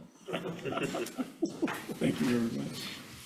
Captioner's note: all laughing